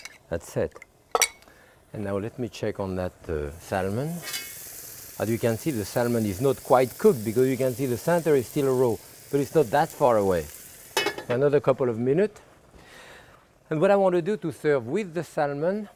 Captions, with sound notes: That's it. And now let me check on that salmon. (pan sizzling) As you can see the salmon is not quite cooked, because you can see the center is still raw. But it's not that far away. Another couple of minutes. And what I want to do to serve with the salmon,